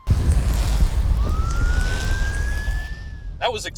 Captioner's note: sirens